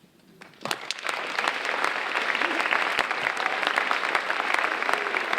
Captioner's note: audience applauding